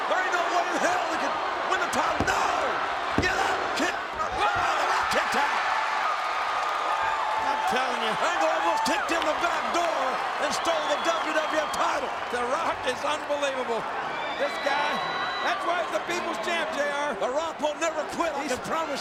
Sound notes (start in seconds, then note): 6.6 crowd cheers